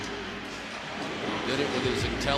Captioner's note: pa announcement